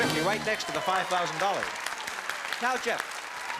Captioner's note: cheering and applause